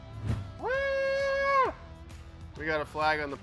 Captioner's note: employee cheering